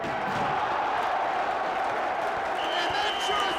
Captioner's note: crowd cheers